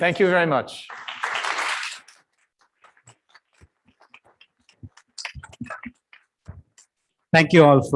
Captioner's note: applause